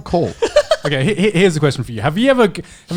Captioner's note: laughs